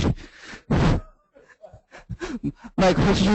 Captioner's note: chuckle